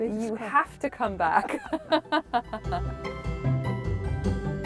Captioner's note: laughter